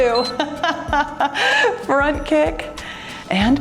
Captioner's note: timer beeps; laughs